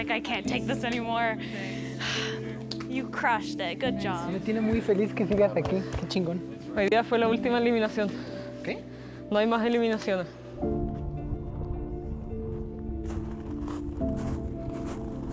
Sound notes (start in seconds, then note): 4.5 speaking foreign language; 10.9 soft music